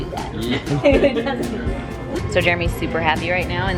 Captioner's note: laughs